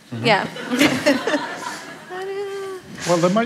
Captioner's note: laughter